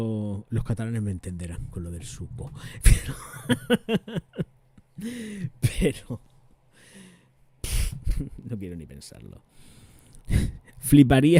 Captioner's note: laughs